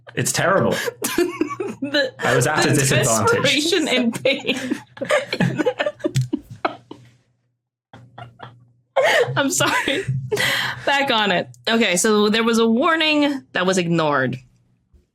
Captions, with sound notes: It's terrible. (giggles) I was at a disadvantage. The desperation and pain! (guests stifling giggles) I'm sorry! Back on it. Okay, so there was a warning that was ignored.